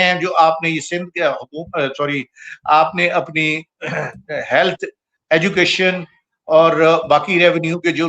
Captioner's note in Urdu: گلا صاف کرتا ہے